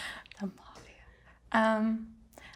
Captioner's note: whispers